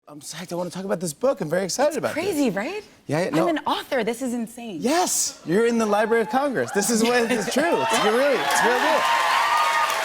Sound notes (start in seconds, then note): 6.1 cheers and applause